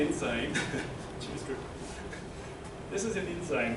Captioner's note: laughter